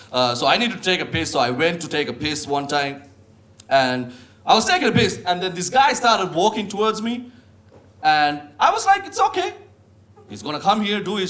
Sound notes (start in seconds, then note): none